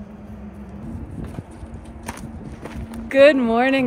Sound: feet thumping

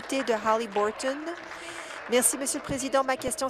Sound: applause

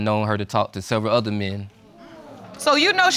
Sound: audience exclaims

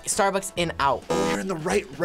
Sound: buzzer

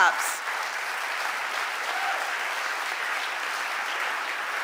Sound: audience applauding

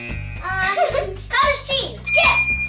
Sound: ding

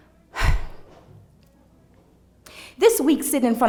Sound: sighs

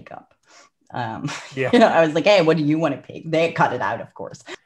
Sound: laughs

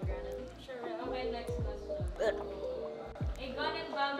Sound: retches

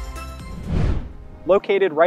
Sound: swooshing noise

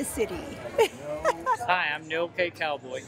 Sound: laughing

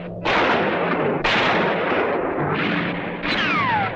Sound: guns firing

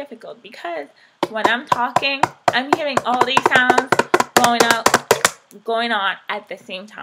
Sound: tapping noise in background

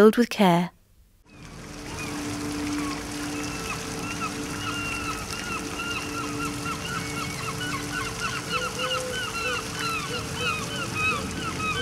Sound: Sound Effects of a Southend park with Seagulls and a fountain in the background

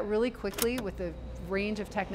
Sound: button clicks

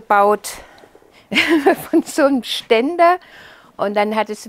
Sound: laughing

